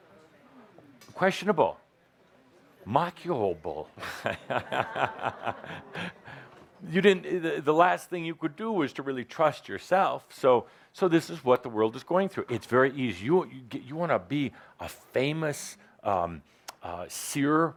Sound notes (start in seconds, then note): 4.0 Adamus laughs